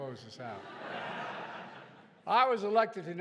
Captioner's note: laughter